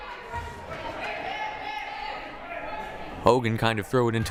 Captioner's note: crowd murmuring